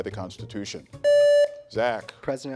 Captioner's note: contestant beeping